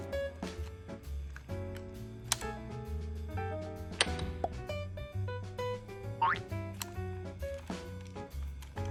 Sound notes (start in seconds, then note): 4.4 peep